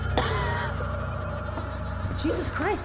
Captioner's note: Claire coughs